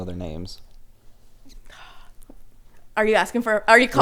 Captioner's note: gasps